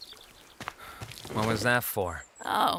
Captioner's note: sighs